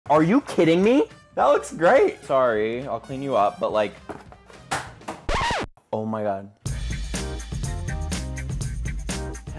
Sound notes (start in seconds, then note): 5.2 record scratch sound; 6.6 upbeat music